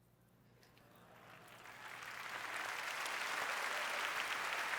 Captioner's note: applause